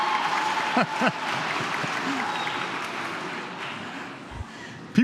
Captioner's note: laughs